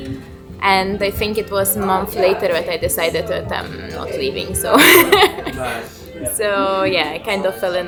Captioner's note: laughs